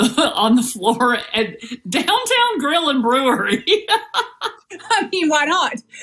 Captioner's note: laugh